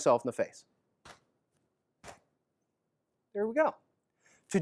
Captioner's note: punching knap sound